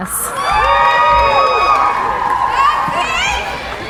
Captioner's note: cheering